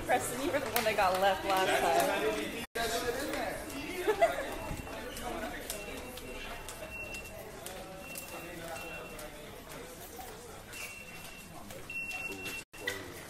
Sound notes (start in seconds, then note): 3.9 laughs; 4.4 machines beeping; 4.7 shoes flapping